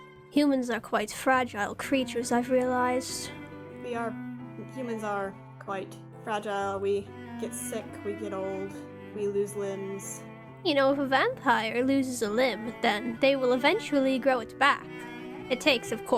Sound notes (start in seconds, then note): none